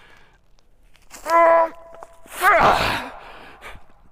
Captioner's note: strains